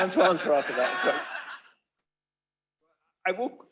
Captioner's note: laughter